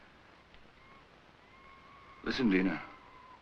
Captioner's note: screeching in jungle